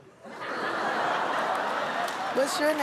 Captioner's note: laughter